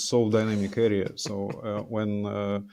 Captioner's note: chuckling